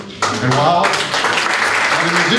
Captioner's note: applause